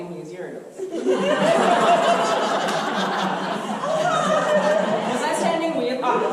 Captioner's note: audience laughter